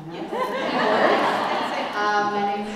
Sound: laugh

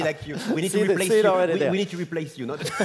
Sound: laugh

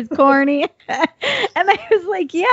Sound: laughing

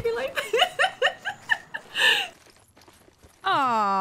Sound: haha

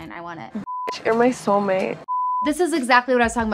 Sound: beep

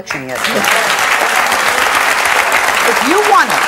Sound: audience claps

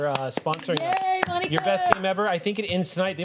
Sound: group applauds

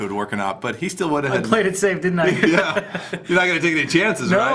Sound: laughs

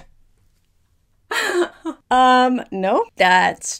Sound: laughing

